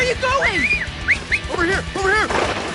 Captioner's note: whistle